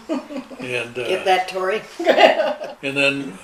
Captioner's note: laughing